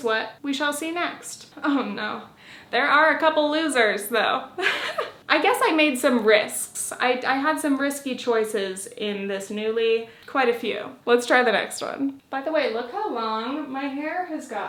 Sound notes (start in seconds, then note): 4.6 giggles